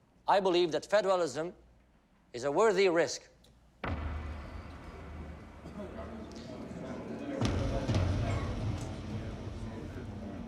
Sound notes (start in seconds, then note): 3.8 tense thumping music; 4.4 people chatter indistinctly